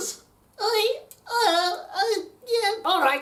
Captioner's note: stutters